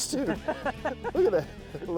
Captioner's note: laughs